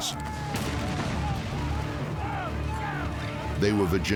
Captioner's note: shouting